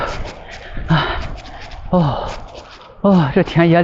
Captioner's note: heavy breathing